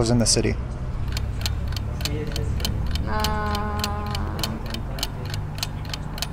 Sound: clock ticking

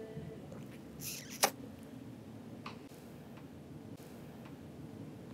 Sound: sucks cigarette loudly

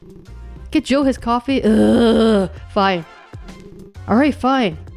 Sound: frustrated groan

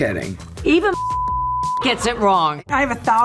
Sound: beep

